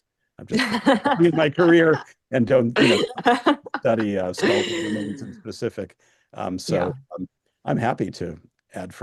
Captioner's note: laughter